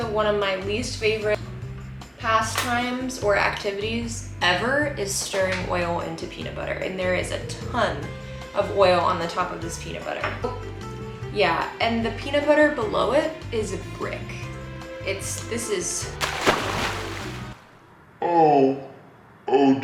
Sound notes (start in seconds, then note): 16.0 liquid splashes